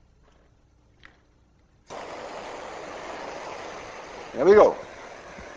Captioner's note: blowtorch hissing